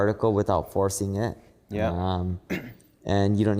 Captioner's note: clears throat